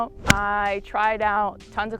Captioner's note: golf ball smacks